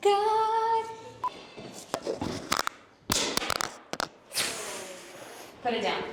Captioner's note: monitor beeping; pipe thumping